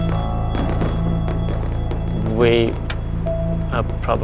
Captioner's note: fireworks exploding